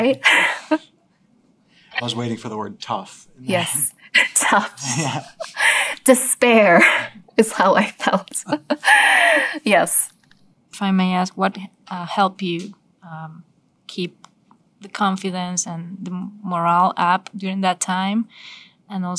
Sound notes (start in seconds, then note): 0.0 laugh; 4.1 laugh; 9.0 laugh